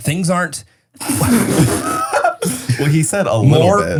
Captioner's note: laughs